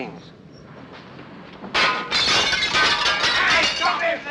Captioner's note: glass shattering